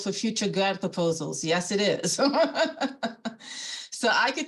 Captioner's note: laughing